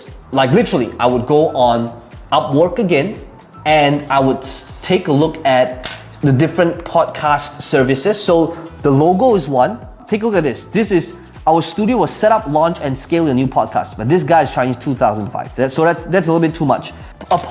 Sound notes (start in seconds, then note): 5.8 marker clattering